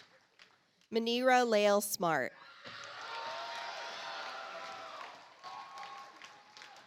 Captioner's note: audience applauds